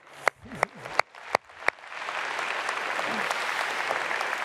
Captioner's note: everyone applauds